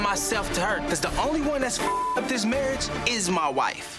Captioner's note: beep